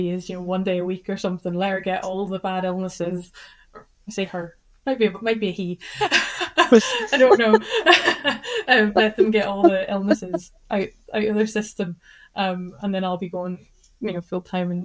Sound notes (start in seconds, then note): 6.6 laughs